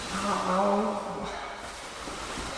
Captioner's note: whiny mumbling